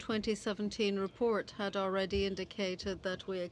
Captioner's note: speaking French